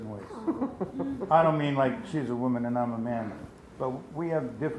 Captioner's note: laughs